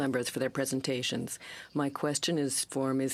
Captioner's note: speaking french